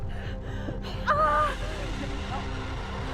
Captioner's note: Belle shouting